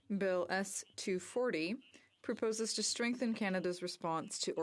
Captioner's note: speaking french